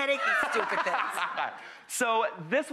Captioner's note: laughing